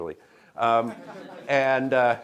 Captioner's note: laughter